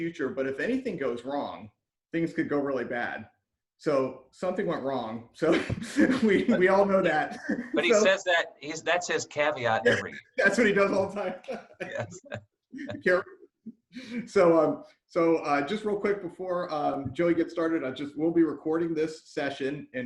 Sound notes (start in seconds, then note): 7.1 laughing